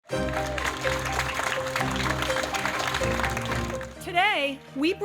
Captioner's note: cheering and Applause